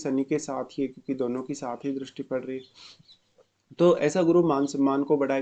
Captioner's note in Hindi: नाक से की जाने वाली आवाज़